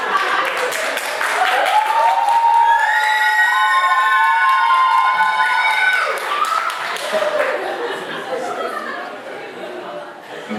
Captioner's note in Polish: Aplauz